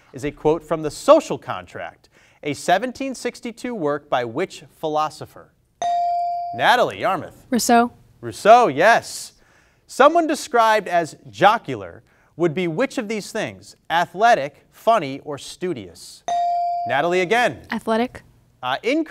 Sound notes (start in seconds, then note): 5.9 buzzer dings; 16.3 buzzer dings